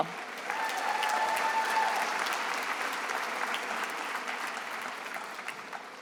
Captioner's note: attendees applauding and cheering